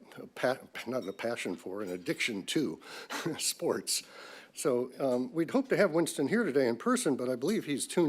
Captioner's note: laughs